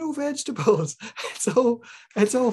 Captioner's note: laughs